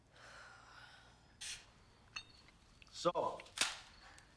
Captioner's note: Kelly sighs